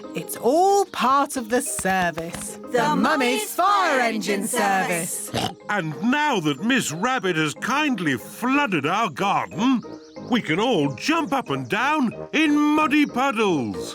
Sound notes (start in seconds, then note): 5.2 oinks